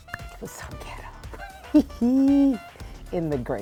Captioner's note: laughing